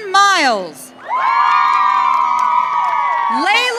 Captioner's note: audience cheering